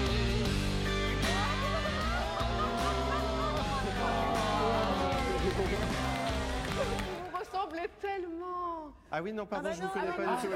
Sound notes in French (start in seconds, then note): 1.3 rires; 2.0 exclamations de surprise